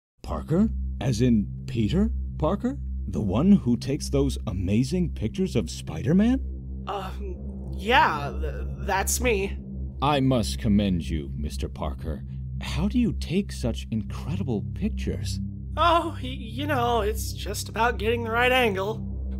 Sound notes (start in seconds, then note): 5.7 shadowing music; 6.8 nervous; 9.0 shadowing music; 14.6 shadowing music; 18.5 shadowing music